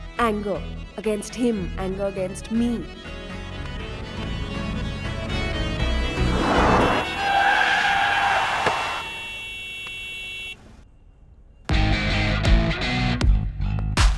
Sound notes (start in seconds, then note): 7.1 tires screeching, car honking